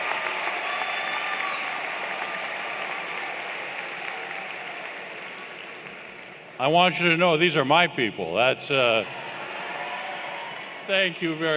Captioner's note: cheers and Applause